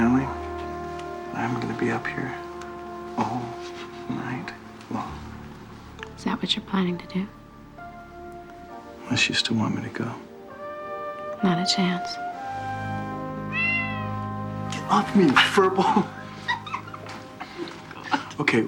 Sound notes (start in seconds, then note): 13.4 meowing; 15.2 laughs